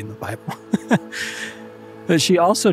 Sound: laughs

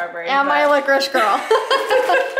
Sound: laughs

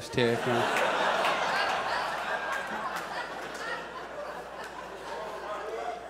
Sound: audience laughs

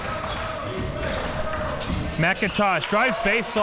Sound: crowd cheering

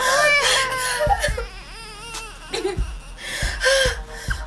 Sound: baby cries

